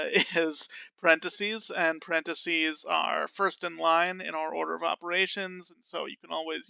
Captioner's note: laughing